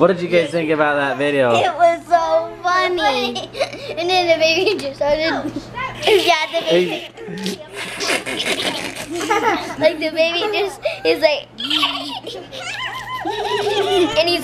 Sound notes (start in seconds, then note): 5.3 laughs; 5.4 giggles; 11.5 giggles